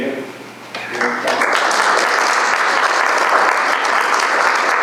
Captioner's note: audience clapping